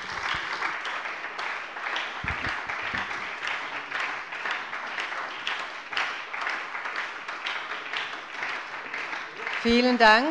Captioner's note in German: Beifall bei der SPD